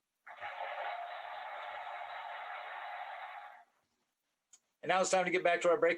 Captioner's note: cheering